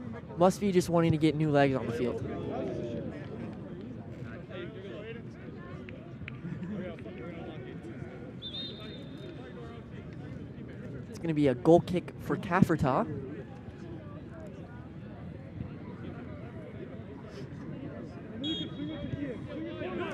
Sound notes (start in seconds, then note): 8.4 whistle blows; 18.4 whistle blows